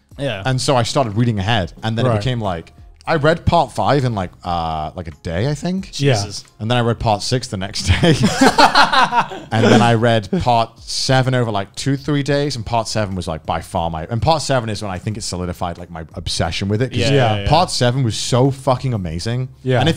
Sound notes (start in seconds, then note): 7.8 men laughing; 7.9 laughs